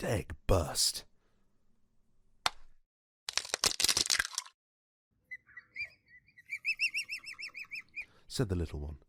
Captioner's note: egg hatching and chirping sfx